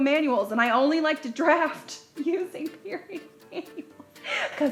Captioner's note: laughs